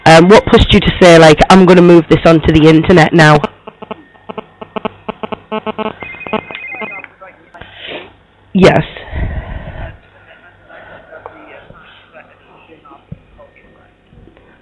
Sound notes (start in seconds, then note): 3.4 computer noises; 6.6 phone rings in background